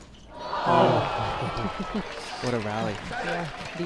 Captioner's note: crowd groans